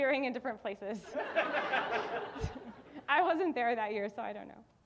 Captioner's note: audience laughing